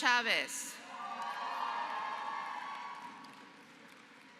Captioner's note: applause